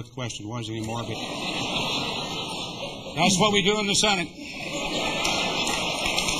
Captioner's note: laughter; applause